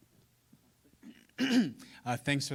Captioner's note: clearing throat